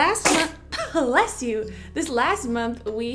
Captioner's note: baby sneezes